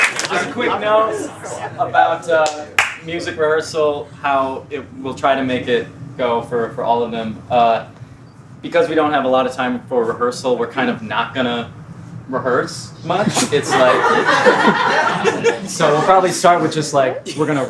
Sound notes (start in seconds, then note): 13.1 laughter